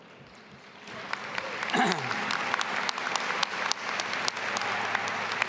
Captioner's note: audience applauding